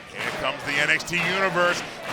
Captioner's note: fans chanting